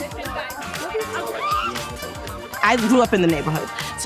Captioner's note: scream